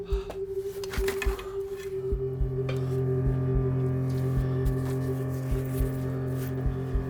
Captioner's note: stirring music continues; feet shuffling